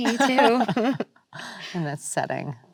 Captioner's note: both laughing